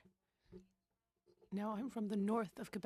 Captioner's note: speaking French